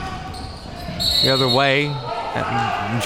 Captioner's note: whistle blowing